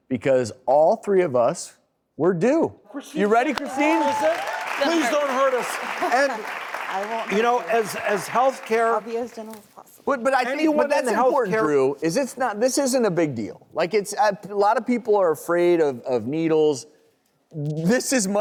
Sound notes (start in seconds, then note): 3.0 audience cheers